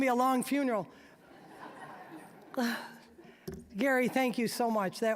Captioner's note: audience laughing